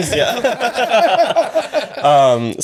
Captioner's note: laughing